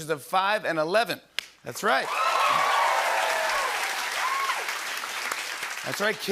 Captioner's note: cheers and applause